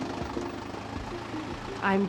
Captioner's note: engine whirring